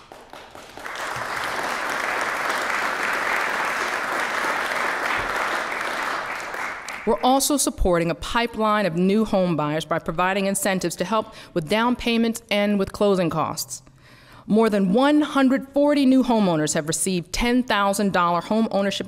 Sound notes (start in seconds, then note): 0.0 applause